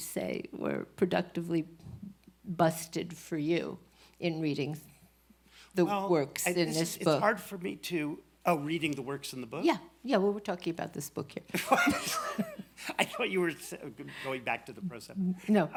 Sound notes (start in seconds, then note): 11.6 laughs